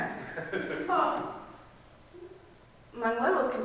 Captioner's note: audience laughing